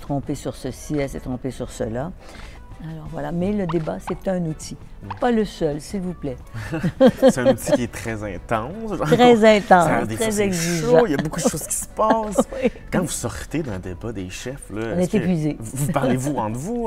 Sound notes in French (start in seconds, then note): 6.5 rires